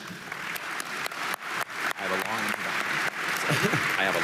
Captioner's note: audience applauding